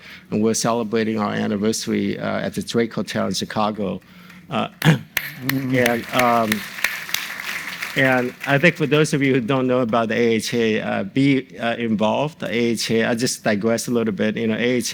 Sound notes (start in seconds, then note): 5.1 applauds; 5.1 audience applauds